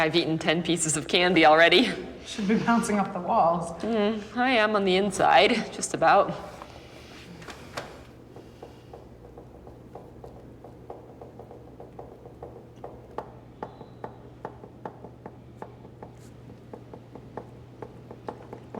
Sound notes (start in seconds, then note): 7.2 staccato foot tapping